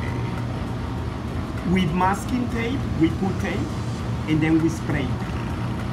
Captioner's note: makes a spraying noise